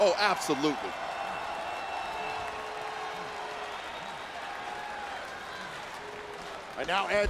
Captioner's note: applause